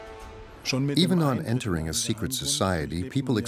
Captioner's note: speaking German